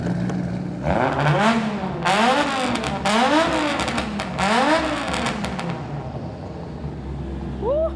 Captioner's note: car revs